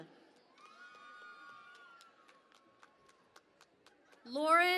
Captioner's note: cheering and Applause